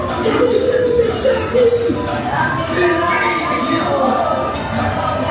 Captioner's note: Hook and Smee speaking French